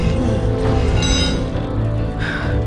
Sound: metal clangs

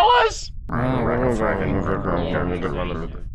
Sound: grumble grumble

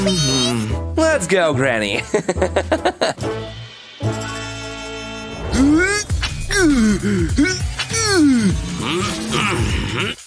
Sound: groans

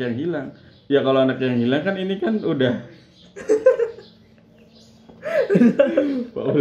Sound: laughing

